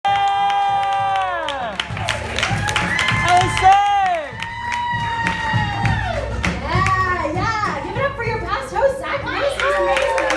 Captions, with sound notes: *Cheering* Give it up for your past host Zach Liss! He's amazing right?